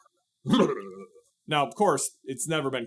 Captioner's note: shudder